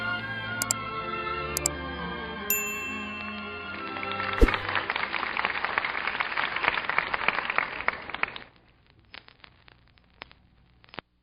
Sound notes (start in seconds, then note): 2.5 bell ringing; 4.7 audience applauding